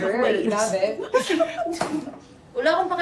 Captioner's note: chuckling